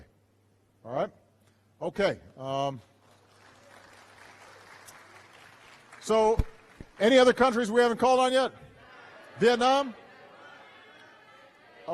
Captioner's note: applause